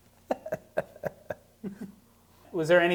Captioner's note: laughing